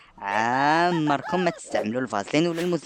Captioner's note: laughing